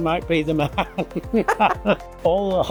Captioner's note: both laughing